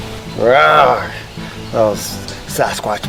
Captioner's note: grunting